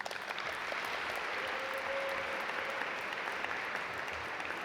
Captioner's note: audience applaud